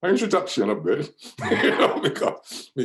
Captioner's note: laughs